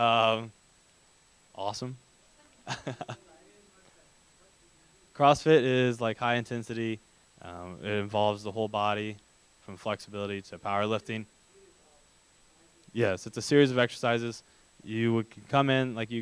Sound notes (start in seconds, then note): 2.6 laughter